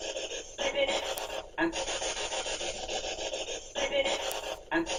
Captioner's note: ghostly voices